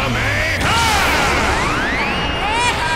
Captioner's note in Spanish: Gritos